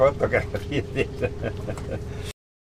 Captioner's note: laughing